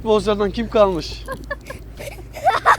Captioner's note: laughing